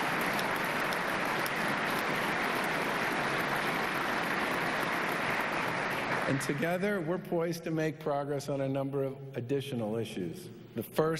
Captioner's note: applause